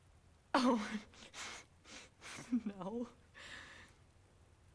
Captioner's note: giggles nervously